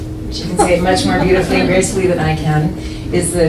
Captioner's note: audience laughs lightly